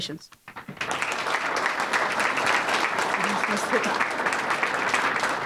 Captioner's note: audience applauding